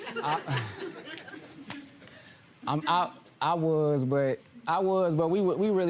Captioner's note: laughs